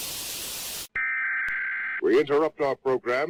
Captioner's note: static buzzing; emergency broadcast beeping